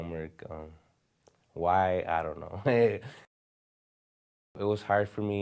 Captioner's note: chuckle